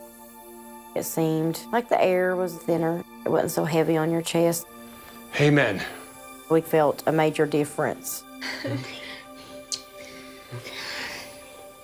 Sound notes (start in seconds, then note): 9.6 kissing